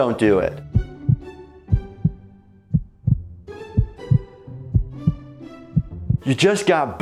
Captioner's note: gentle music; heart beating